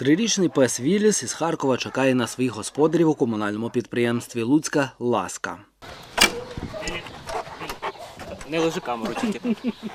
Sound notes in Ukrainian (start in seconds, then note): 6.3 Хекання пса